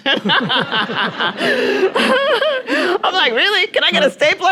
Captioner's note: audience laughing; laughing